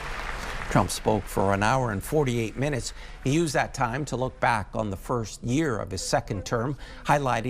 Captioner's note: applause